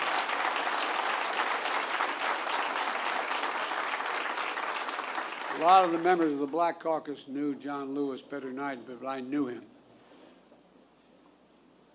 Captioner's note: applause